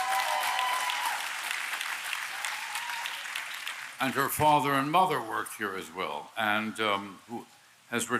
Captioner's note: applause